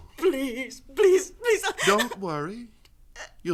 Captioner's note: sobbing